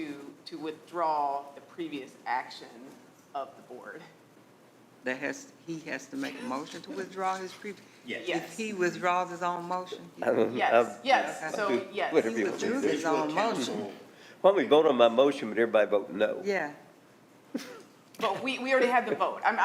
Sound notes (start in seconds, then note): 11.0 stammering; 17.5 laughs